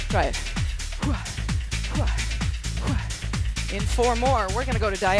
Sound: grunting

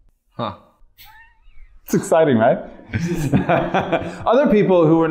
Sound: chuckles

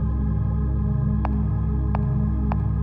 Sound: loud footsteps

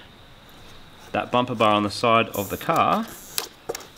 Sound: cable tie zips

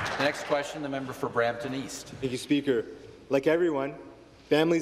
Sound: applause

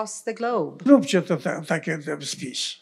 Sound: foreign language

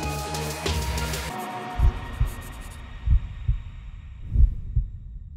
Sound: heartbeats

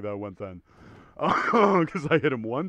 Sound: cough

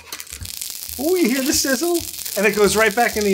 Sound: pizza sizzling

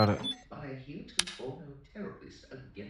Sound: SOUND: Killik accepts the call

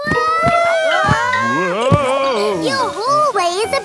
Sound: all yelling

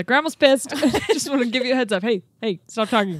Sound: chuckling

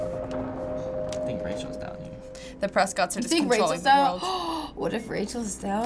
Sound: gasps

